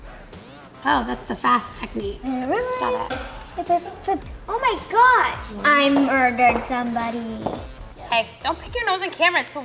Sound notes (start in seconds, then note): 3.1 filming crew chuckling